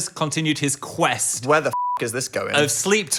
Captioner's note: beep